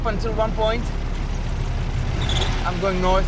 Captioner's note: car engine humming